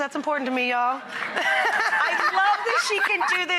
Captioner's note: laughter